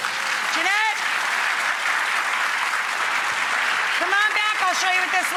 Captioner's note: applause